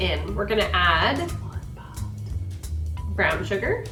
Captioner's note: whispers